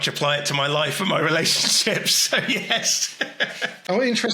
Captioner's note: laughs